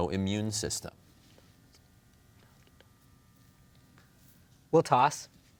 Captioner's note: team whispering